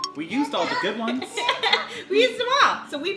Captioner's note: quirky music; laughing